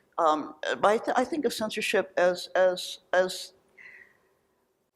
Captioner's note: sighs